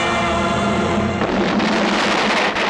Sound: explosion

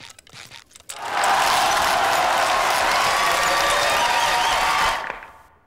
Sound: cheering

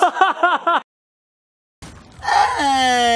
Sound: laughing

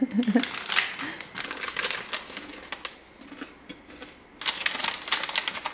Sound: sound of snack 1

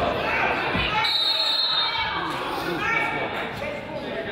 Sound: whistle blows

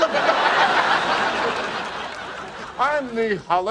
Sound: audience laughing

